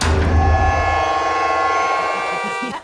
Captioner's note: thudding; laughing; honking